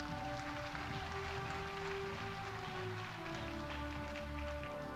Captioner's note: audience applauding